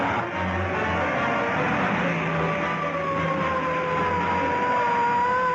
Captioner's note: siren blaring